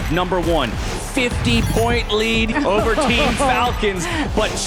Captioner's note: commentator 3 laughing